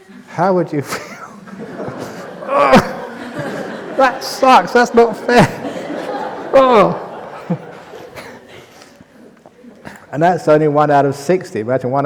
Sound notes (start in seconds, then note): 0.6 laughter; 6.9 laugher